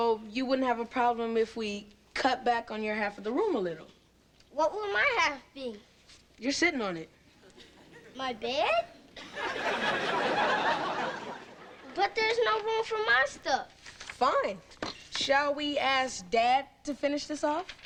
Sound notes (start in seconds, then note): 9.1 audience laughing